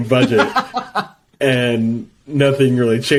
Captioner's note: laughs